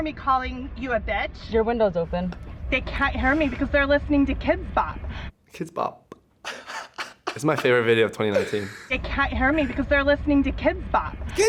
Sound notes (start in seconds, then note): 6.4 laughs